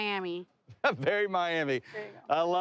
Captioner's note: laughs